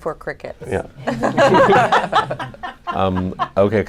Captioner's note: laughter